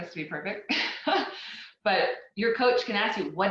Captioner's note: laughs